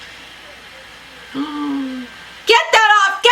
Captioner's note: gasps